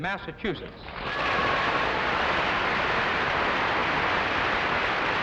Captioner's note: audience applauding